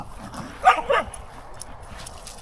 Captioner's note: bark Bark